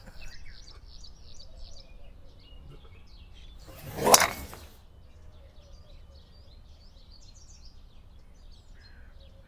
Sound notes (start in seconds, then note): 3.7 golf club smacks